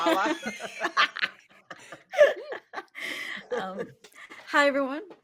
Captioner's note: everyone laughing